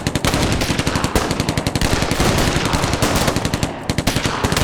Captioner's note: gunfire continues